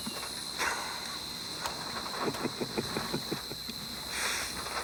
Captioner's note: Bruto chuckles